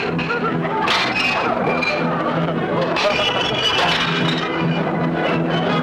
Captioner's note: plates breaking